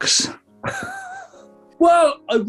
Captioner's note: sniggering